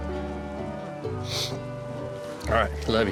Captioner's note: sniffles